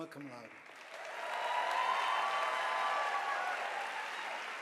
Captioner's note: audience applauding